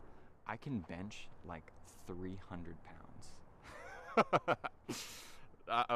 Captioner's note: laughing